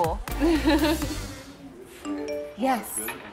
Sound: woman laughs

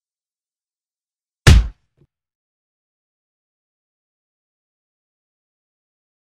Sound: punch sound

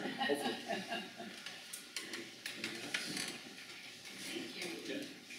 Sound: chuckles

